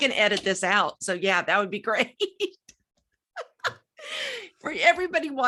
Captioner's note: laughing